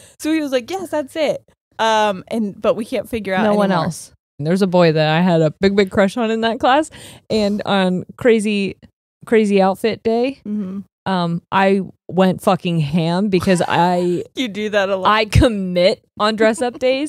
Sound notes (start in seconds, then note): 12.1 laughs